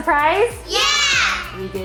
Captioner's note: all exclaiming